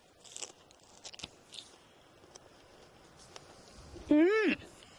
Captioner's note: plant crunching